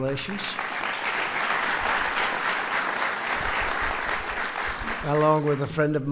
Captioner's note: applause